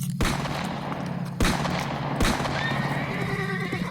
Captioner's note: shots and the horse neighs; the horse runs off and neighs